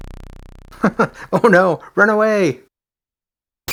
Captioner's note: chuckles